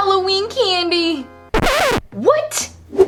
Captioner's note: scratching